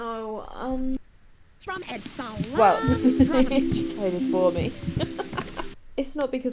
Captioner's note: laughs